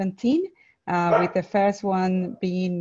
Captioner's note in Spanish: perro ladra